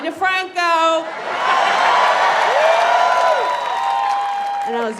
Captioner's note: audience cheers